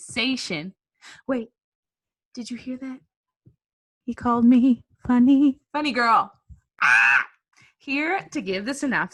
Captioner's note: squeals